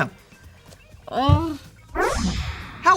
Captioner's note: groans